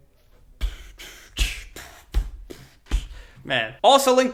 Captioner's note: beatboxing